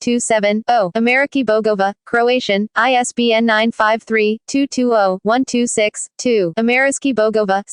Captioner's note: Spanish; Croatian